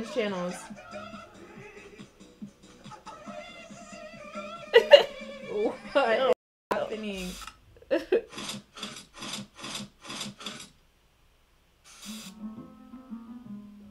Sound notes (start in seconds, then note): 4.7 laughter; 10.8 silence